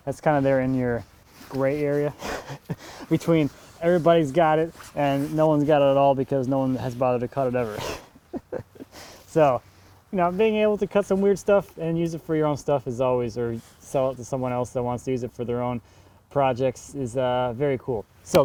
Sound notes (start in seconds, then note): 7.8 laughing